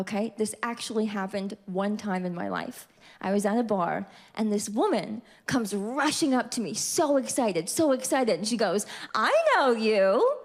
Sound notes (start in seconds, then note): none